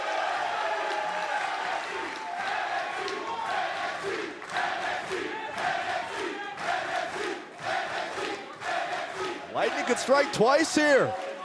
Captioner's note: crowd cheering